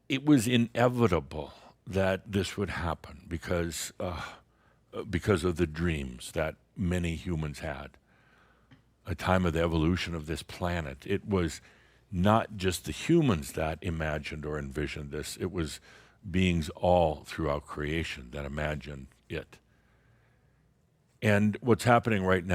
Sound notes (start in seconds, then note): none